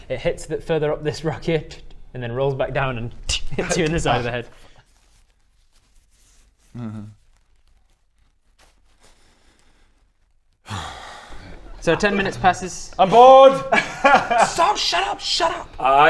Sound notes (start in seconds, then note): 5.7 embarrassed shuffling; 10.6 calming breath in; 10.6 sigh